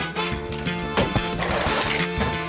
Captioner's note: keys clack; clunk!; splash!; thud!